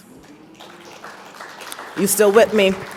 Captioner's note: audience applauds